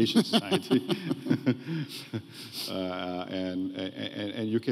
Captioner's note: laughs